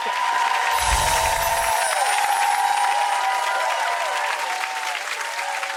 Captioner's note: people cheering; chimes tinkling